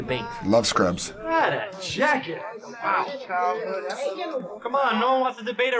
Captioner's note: people angrily muttering